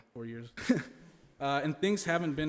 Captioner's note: laughing